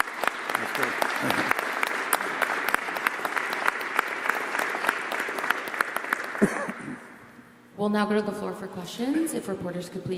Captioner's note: applause